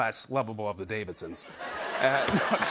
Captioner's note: laughter